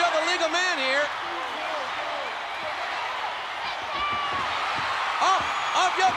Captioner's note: spectators cheering